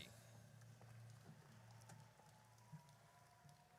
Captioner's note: audience cheers